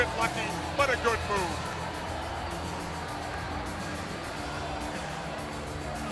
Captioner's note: crowd cheering